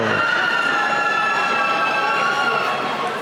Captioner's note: cheering